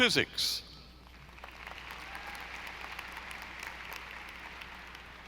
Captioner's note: audience applauding